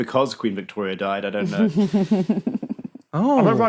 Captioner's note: snickers